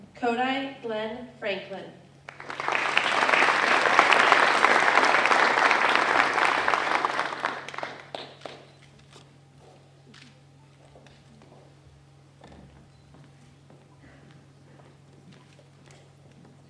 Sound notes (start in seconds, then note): 2.2 applause